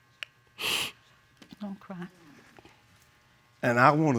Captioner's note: sniffles